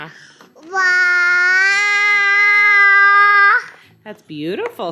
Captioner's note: boy shouting